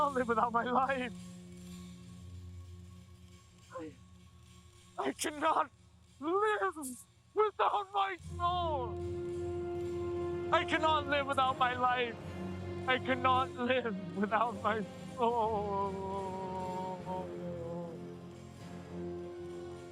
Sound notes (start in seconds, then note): 16.6 sobs